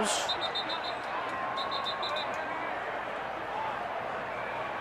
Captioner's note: whistle